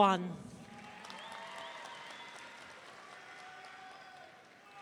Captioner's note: audience cheering